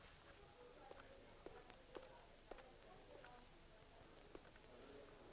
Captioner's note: chatter